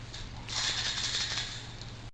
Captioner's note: rattling